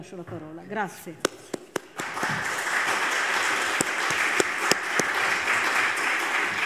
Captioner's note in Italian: Applauso